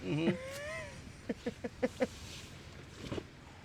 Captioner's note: laughs